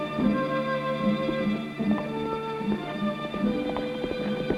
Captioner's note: hooves pounding